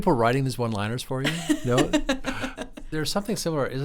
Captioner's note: laughs